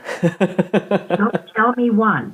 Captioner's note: laughter